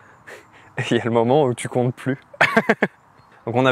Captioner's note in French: rires